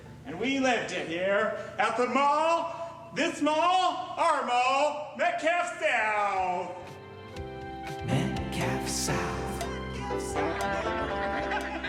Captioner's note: laughter